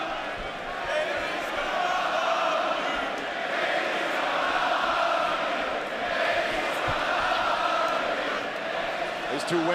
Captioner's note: fans chanting